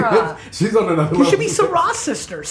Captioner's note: laughs